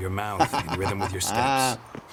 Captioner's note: laughs